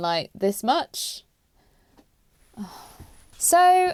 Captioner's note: exasperated sigh